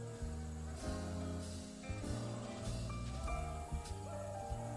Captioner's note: people shouting